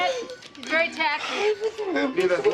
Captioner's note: speaking spanish